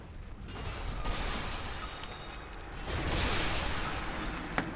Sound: in game: crashing

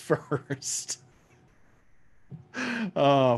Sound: laughs

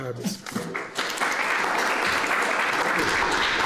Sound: applause

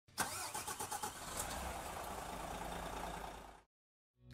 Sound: car engine roaring

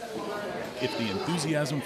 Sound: crowd murmuring

